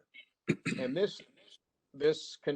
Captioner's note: clearing throat